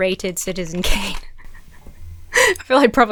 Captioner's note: laughs breathlessly